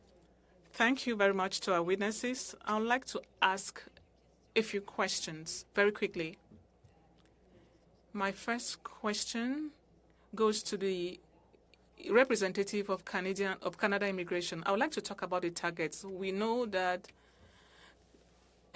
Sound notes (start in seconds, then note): 10.2 speaking french